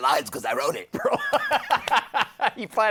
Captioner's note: laughs